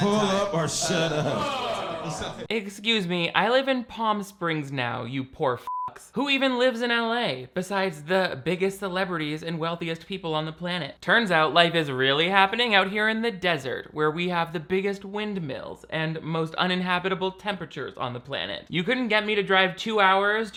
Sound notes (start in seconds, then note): 0.0 crowd groans; 0.0 audience laughing; 5.7 beeps